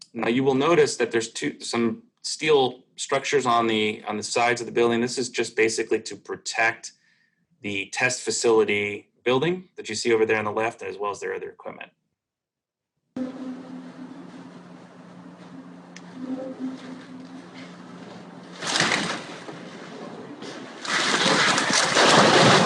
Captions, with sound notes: Now you will notice that there's some steel structures on the sides of the building. This is just basically to protect the test facility building that you see over there on the left, as well as their other equipment. [cracking]